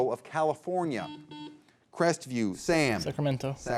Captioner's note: buzzer beeps